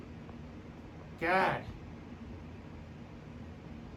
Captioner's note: normal voice